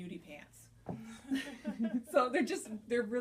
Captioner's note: laughter